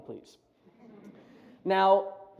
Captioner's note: chuckles